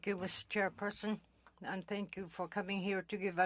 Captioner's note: speaking french